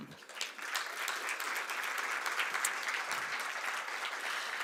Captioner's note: applause